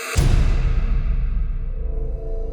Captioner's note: slow spooky music continues; heavy thud echoing; music crescendos